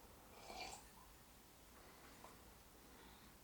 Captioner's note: slurps